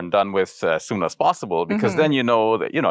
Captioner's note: sighs